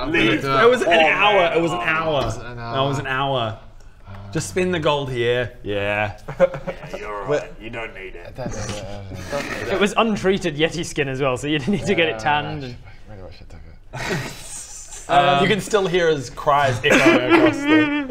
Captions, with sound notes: - Leave the poor man alone - It was an hour, it was an hour Was it an hour? It was an hour Awww... Just spend the gold here Yeah You're alright, you don't need it Tha- *sad mumbling* Don't need it It was untreated yeti skin as well, so you'd need to get it tanned and ahhh really wish I'd taken it You can still hear his cries - echoing across the - *Dirk sobbing*